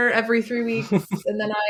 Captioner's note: laughs